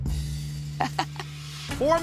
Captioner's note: laughs